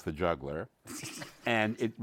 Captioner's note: laughter